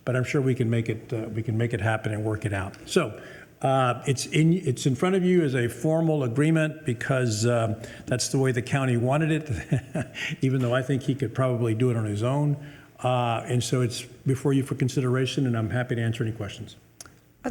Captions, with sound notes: But I'm sure we can make it happen and work it out. So it's in front of you as a formal agreement because that's the way the county wanted it, (chuckles) even though I think he could probably do it on his own. And so it's before you for consideration, and I'm happy to answer any questions.